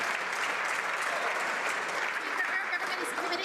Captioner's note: some Applause